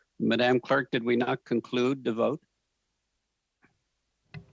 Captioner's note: speaking French